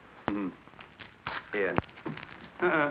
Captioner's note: chuckles